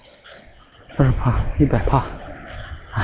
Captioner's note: breathing sounds